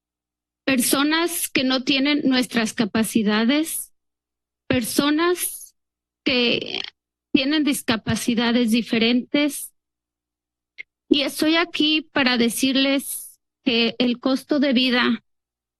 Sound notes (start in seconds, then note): 0.7 speaks in Spanish; 10.8 speaks in Spanish